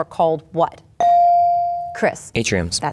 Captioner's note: bell dings